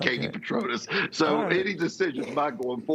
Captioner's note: laughter